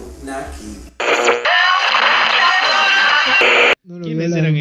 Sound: radio tuning

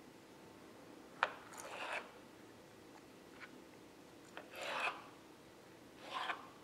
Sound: knife scarping against board

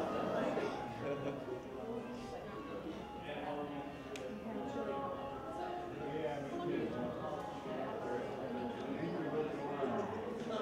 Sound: indistinct chatter

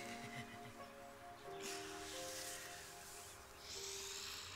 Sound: Mathieu chuckles

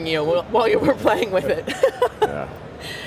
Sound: laughs; laughing

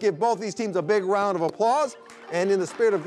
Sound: audience applauding

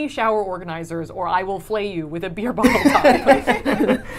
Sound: laughs

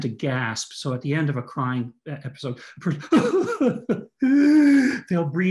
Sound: crying sound

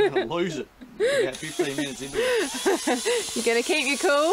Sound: laughing

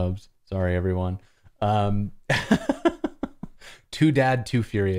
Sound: laughter

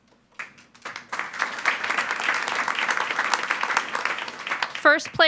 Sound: attendees applauding

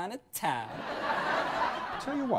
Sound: audience laughs

